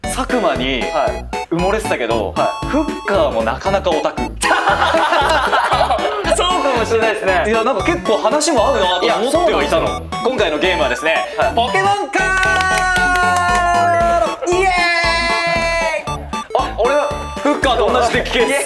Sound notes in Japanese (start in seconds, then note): 12.3 拍手👏